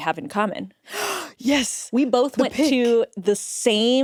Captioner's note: gasps